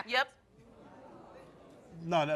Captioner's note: crowd discussing